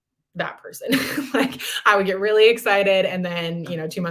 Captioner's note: laughter